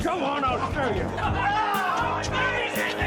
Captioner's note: men laughing